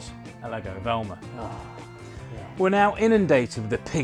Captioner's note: sighs